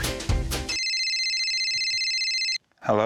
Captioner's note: phone rings